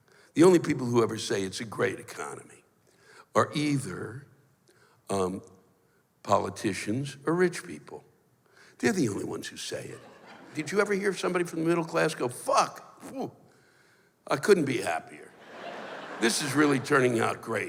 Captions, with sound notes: the only people who ever say it's a great economy, are either... um, politicians, for rich people. They're the only ones who say it. Did you ever hear of somebody from the middle class go, "Fuck! Ooh! I couldn't be happier! [laughter] This is really turning out great.